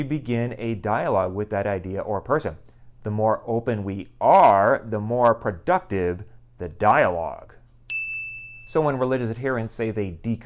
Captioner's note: chime